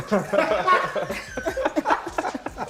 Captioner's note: laughter